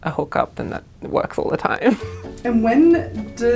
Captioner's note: laughs